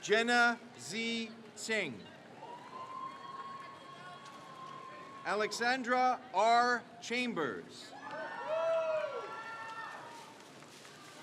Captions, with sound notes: Jenna Z. Sing. (crowd cheers) Alexandra R. Chambers. (crowd cheers)